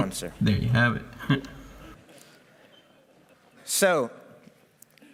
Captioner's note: laughs